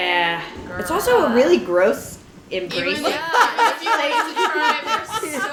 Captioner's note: laughter